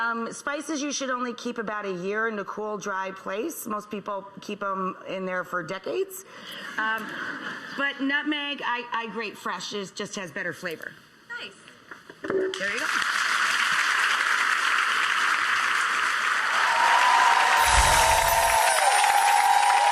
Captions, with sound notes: Spices, you should only keep about a year in the cool dry place. Most people keep 'em in there for decades. (laughter) But nutmeg, I grate fresh, it just had better flavor. Nice. There you go. (applause and cheering)